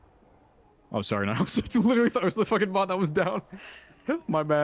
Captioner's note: laughter